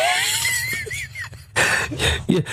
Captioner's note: laughing